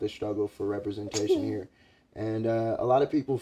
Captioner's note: giggles